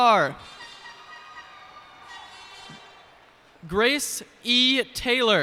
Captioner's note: cheers and applause